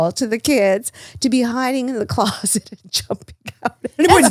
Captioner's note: laughs